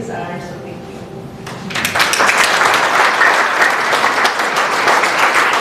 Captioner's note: applause